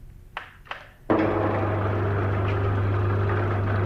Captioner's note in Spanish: ruido de motor